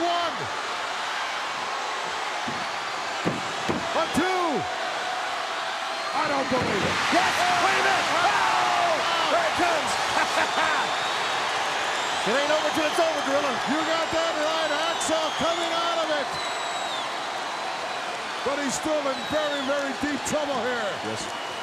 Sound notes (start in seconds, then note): 7.5 audience cheering; 9.7 Jim laughing